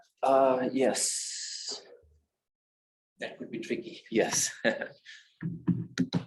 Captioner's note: laughing